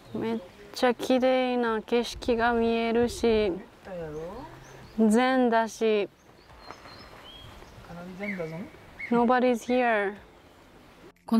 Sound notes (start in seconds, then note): 4.6 osaka dialect